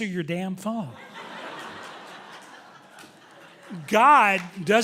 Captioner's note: audience laughing loudly